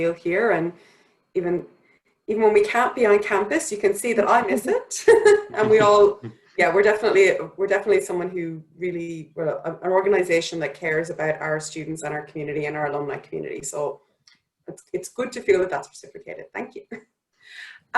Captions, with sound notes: And even when we can't be on campus, you can see that I miss it (chuckles) and we're definitely an organization that cares about our students and our community and our alumni community. So it's good to feel that that's replicated. Thank you.